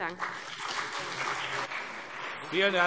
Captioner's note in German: Beifall CDU und BÜNDNIS 90/DIE GRÜNEN